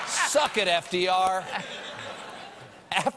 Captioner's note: laughter